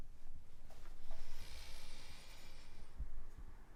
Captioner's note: breaths heavily